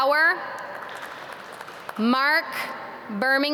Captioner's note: audience clap